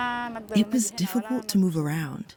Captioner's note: through translator